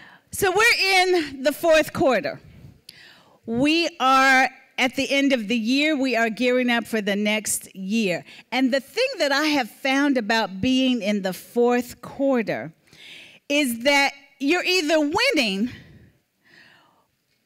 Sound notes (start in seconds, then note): none